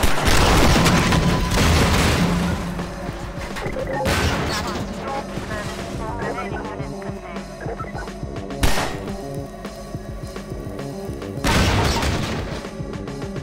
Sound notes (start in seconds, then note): 0.0 barrel exploding; 4.0 Combine radio chatter; 8.0 fire crackling; 8.6 gunshot; 11.4 barrel exploding; 13.1 wood crashing